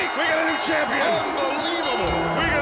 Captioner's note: bell ringing